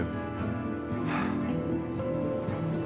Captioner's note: exhales